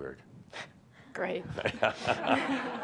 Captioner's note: laughter